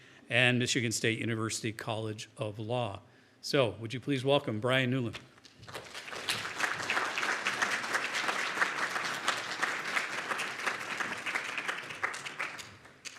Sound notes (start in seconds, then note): 5.6 audience applauding